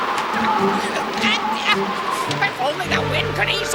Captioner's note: wind blowing and witch vocalizing